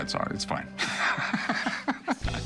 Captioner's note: laughs